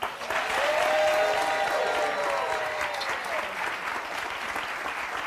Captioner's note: audience cheering and clapping